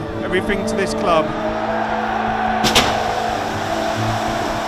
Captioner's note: crowd cheering